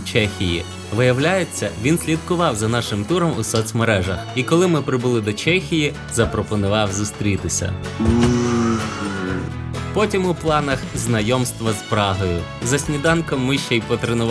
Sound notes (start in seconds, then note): 8.0 imitating airplane sound